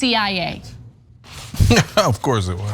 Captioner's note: laugh